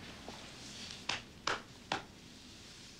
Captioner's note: slapping back